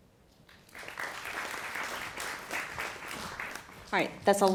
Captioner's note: applause